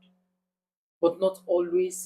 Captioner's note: paause